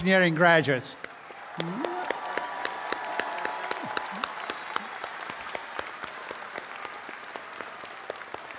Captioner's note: applause and cheering